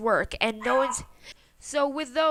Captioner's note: bork